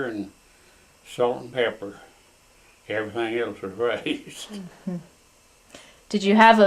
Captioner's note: laughs